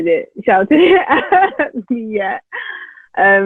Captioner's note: laughs